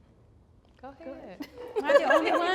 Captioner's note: laughs